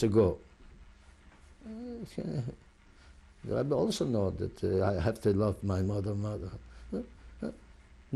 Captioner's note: sighs